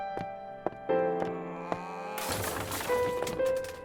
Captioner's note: sound of glass breaking, throwing pots and pans